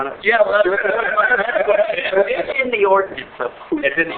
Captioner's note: laughing